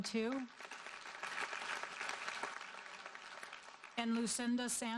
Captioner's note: audience applauding